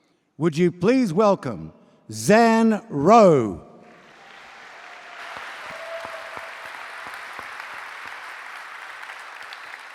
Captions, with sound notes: Would you please welcome Zan Rowe? (AUDIENCE APPLAUDS)